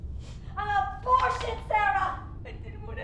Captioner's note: pamphlet clatters